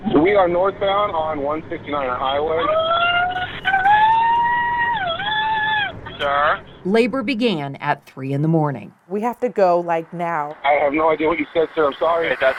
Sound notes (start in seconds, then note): 2.7 screaming